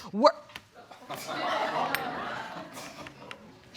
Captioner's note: audience laughs